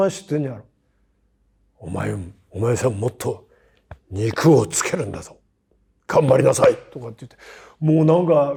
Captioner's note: laugh